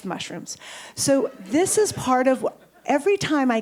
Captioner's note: audience chuckles